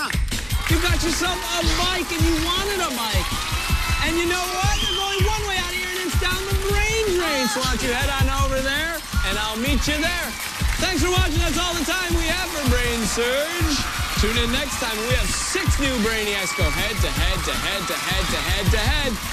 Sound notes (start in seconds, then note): 3.1 cheers and applause